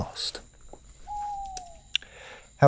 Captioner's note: owl hooting